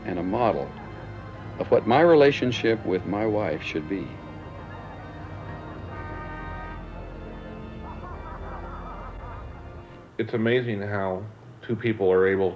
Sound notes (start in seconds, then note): 4.5 car honking; 7.2 laughing